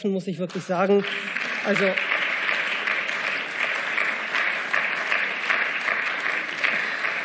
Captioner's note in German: Beifall